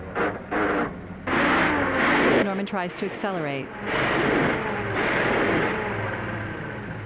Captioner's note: engine struggling; engine shutting off